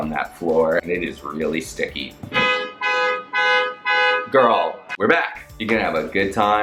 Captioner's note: car alarm goes off